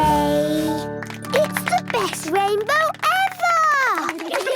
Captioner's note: laughter